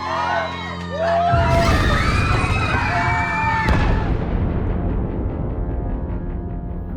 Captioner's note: screaming; exploding